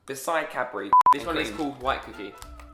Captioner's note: beep